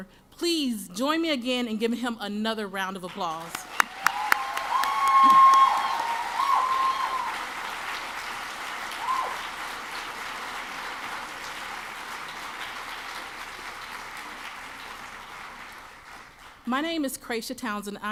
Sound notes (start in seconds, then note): 3.8 audience claps and cheers